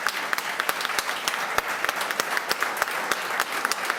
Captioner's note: applause